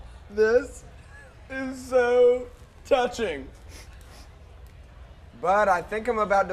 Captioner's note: laughing